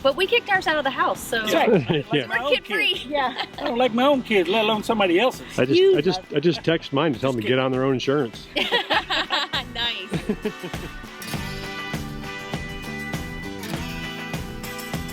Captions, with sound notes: - But we kicked ourselves out of the house, so. - That's right. - We're kids-free (chuckles) - Yeah. - I don't like my own kids let alone somebody else's. - I just text mine to tell them to get their own insurance. (all laughing) - Nice (bright upbeat music)